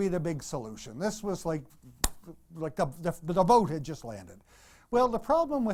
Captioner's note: clap